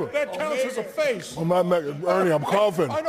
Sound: Shaq speaking gibberish and trying to keep it together

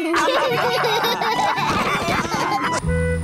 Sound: all laughing

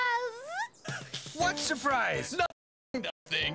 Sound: Jake laughs

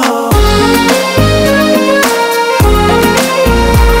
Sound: none

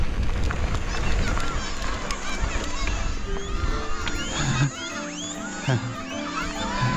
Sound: children chattering

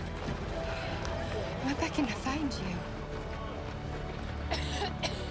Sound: coughs

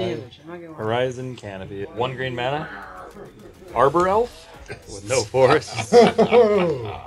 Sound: all laughing

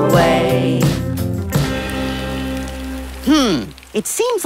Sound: rain

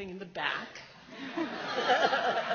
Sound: laughs

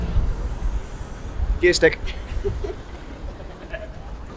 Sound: others laughing

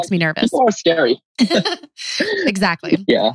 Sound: laughs

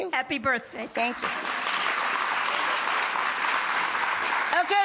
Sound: audience clapping

